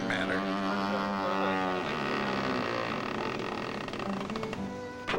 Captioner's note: hinges creak